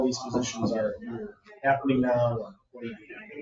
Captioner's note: speaks distantly